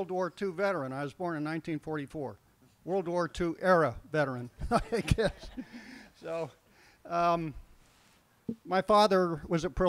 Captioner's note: laughs